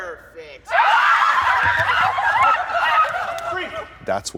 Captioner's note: kids yell monkey noises